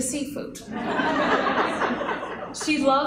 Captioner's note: laughter